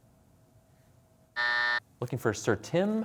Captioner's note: buzzer sounds